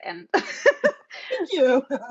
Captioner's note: both laughing